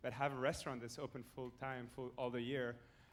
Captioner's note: none